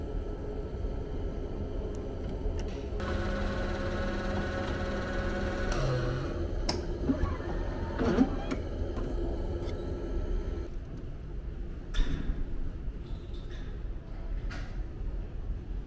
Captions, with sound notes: A satisfying button. *satisfying machine sounds* Lets enjoy it with the cemetery/city view... life next to death..